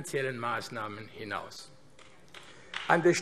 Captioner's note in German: Vereinzelter Beifall AfD